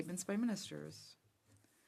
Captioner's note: speaking French